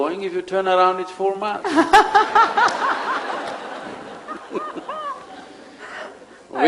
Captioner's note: laughter